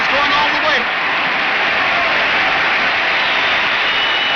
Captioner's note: crowd cheers